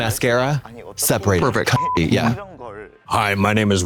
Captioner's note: beep